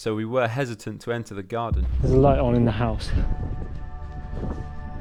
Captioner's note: none